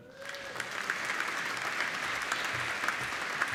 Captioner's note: applauding